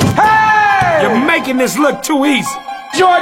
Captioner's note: dunk sound; cheers